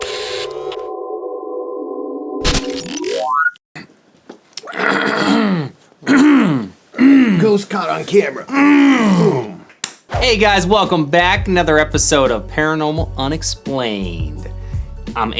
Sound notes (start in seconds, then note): 0.1 camera whirring; 6.0 clearing throat; 9.7 clapping